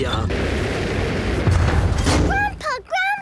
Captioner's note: thuds